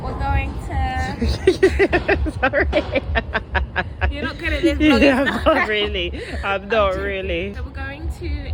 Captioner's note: laughs